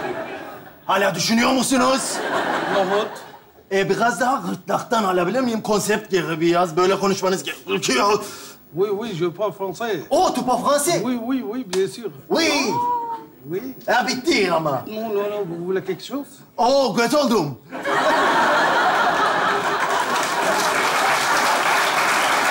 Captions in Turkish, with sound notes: Hâlâ düşünüyo musunuz? -Nohut. -Ee, biraz daha gırtlaktan alabilir miyim? Konsept geldi biraz böyle konuşmanız gerekiyor (Fransızca konuşur) (Karşılıklı Fransızca konuşurlar) -Oo g*** oldum. (Kahkaha ve alkış sesleri)